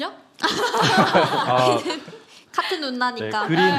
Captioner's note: laughter